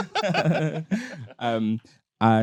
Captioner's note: both laughing